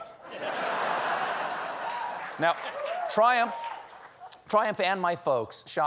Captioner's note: laughter